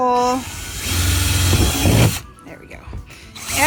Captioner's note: drill spinning; drill spinning